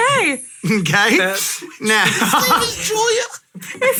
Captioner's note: chuckling